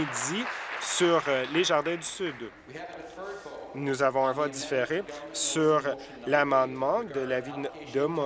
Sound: applause

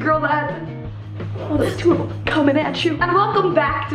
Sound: chuckles

